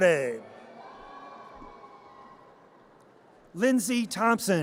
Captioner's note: audience cheers